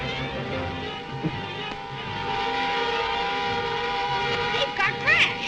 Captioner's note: The Juggernaut whirs